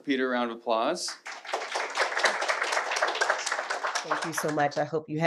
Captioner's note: audience clapping